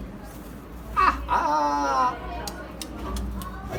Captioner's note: licking sounds